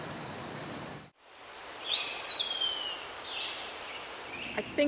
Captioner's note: birds singing